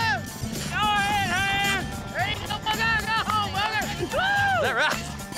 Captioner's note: everyone shouting, cheering